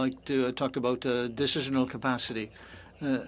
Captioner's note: speaking french